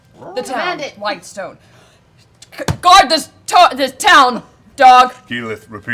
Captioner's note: shouting